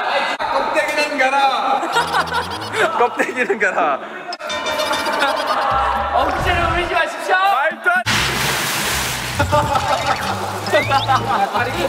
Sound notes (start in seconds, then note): 9.4 hahahahha; 11.0 laughing